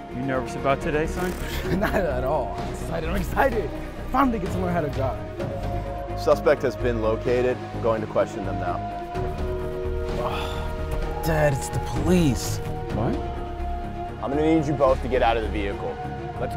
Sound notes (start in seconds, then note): 8.9 tense music; 10.1 son sighs